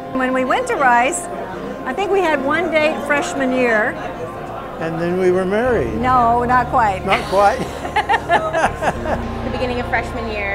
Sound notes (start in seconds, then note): 7.0 laughing